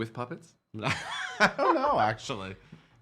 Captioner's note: laughing